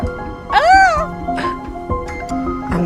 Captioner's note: Emma squeals